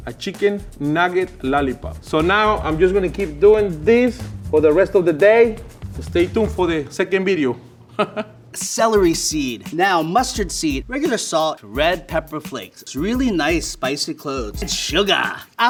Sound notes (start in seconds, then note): 7.9 chuckles